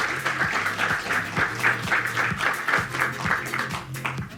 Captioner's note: audience clapping; upbeat music